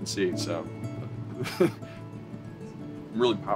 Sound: laughter

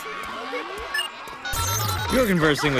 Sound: phone dialing

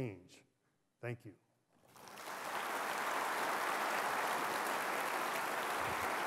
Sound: applause

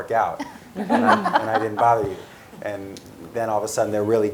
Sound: laugh

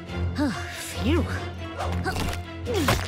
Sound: sighs; grunting

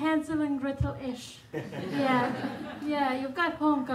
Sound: audience laughing

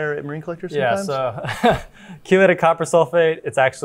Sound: chuckles

